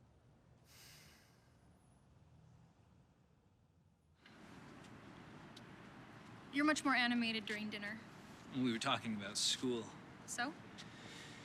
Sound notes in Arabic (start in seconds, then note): none